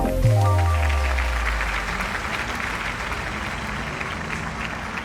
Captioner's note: applause